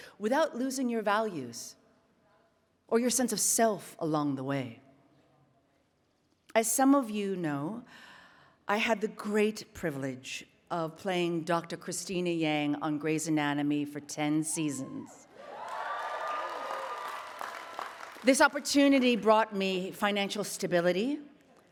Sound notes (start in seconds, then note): 15.3 attendees cheering and applauding